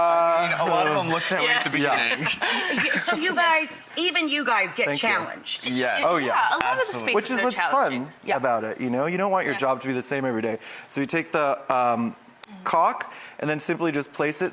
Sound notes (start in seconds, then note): 2.2 laughing